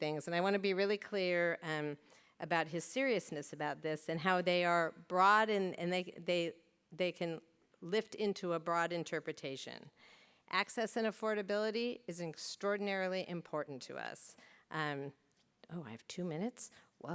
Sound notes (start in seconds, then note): none